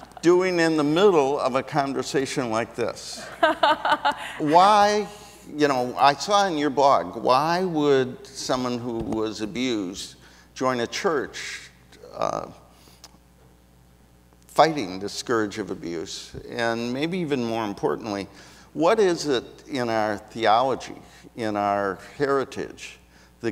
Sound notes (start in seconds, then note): 0.0 audience laughs; 3.2 laughs